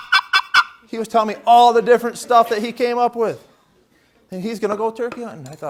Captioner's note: laughter